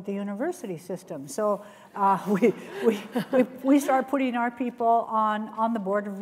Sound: laughs

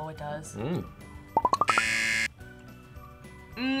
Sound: buzzer rings

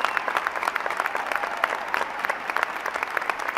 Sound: applause

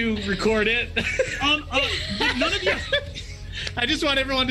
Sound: group laughs

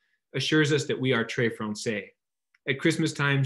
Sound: speaks in foreign language

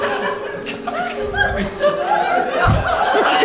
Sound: giggling

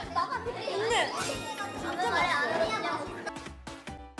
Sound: eating passionately

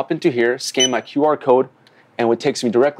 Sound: QR scanner beep

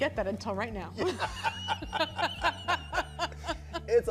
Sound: both laughing

